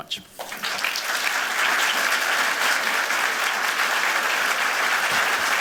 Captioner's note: applause